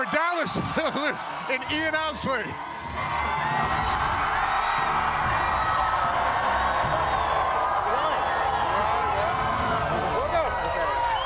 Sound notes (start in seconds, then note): 0.0 cheering